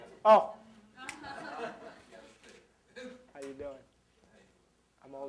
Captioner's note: snaps fingers